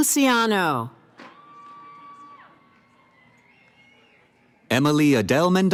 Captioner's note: cheering